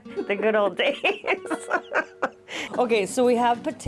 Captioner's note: laughing; laughs